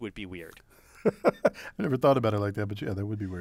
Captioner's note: laugh